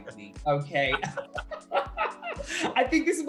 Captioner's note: laughter